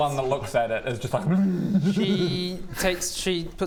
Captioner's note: hrgggmmghhgh